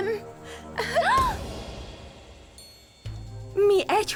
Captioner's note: gasps